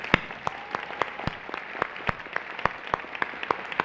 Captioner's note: applause